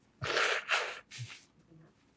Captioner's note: wiping nose